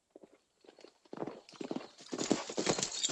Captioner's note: horses trotting